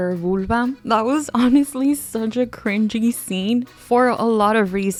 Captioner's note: laughing